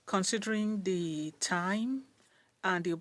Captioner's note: speaking French